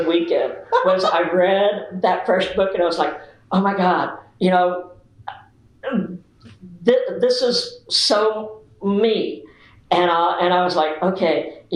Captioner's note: laughter